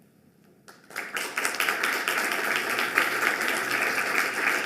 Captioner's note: audience clapping